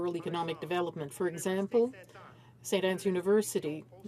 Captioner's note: speaking in French